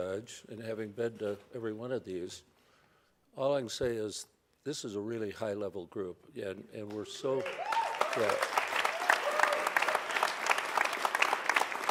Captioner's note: cheers and applause